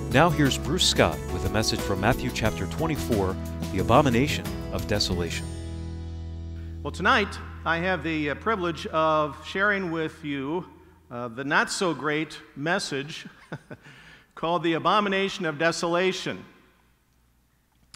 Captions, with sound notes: Now here's Bruce Scott with a message from Matthew Chapter 24, The Abomination of Desolation. - Well, tonight I have the privilege of sharing with you the not so great message (laughs) called The Abomination of Desolation.